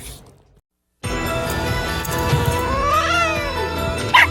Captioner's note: hisses and then yowls; barks then howls